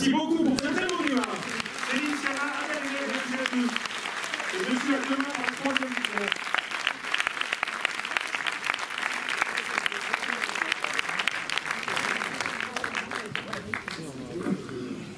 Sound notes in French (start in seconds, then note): 4.1 applaudissements